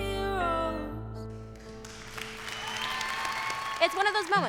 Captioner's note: cheering and applause